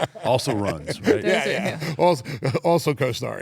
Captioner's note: laugh